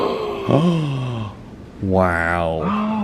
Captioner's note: both gasping